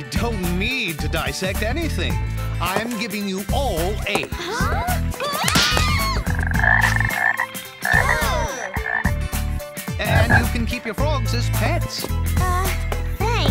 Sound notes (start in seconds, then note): 5.2 cheering; 5.9 croaks